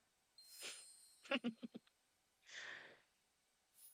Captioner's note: giggles